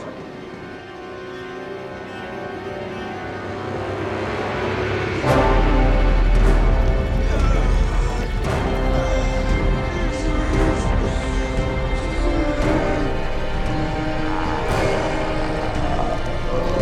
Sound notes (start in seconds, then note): 0.2 eerie music; 6.3 Teplov groaning; 6.3 dramatic music